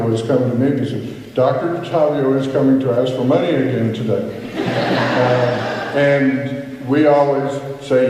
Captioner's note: laughter